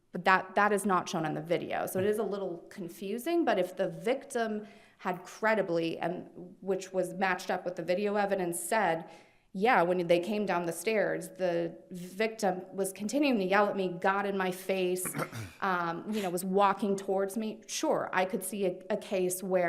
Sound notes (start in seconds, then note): 15.0 attendee clears throat